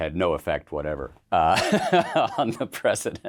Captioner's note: laughs